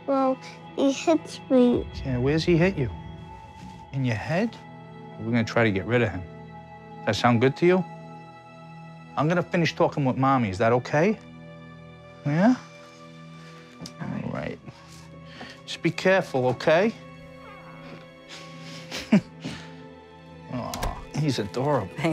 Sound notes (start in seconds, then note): 18.3 chuckles